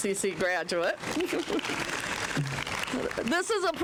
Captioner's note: applause